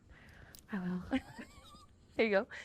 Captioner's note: laughs